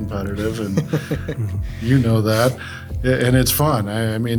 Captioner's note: laughs